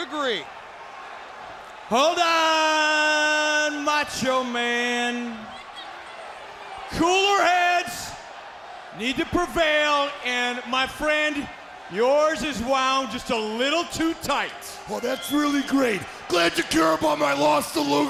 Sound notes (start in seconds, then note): 4.2 crowd chatter